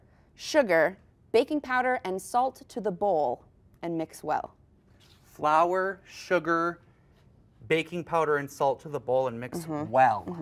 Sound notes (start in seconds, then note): none